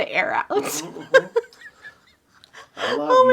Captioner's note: laughing